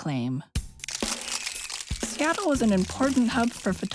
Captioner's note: camera Shutters, Music